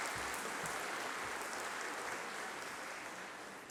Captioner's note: applause